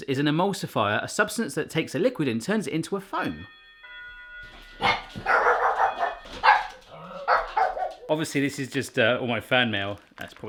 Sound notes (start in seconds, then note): 3.3 doorbell rings; 4.8 dogs bark